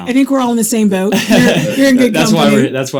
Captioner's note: participants laughing